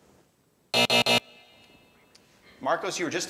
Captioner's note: buzzer